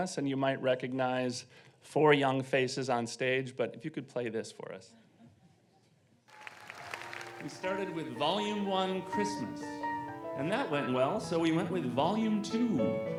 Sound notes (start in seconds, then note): 6.8 audience laughing